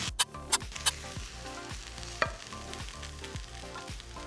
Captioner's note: sizzling